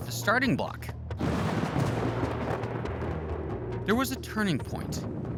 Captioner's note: thunder rumbles